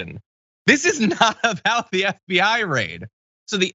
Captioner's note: laugh